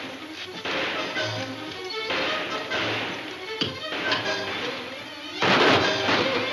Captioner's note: dramatic music; guns firing